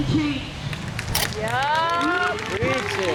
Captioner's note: crowd cheers